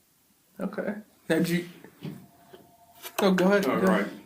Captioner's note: Townsend’s phone rings